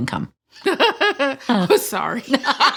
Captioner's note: laughs